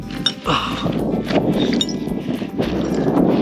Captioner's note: wind blowing